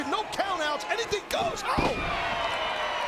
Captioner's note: mat thumping; crowd cheering